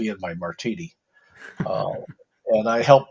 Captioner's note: laughs